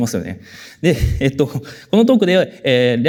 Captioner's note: chuckles